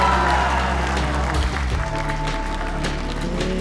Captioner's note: applause